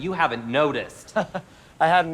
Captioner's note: laughs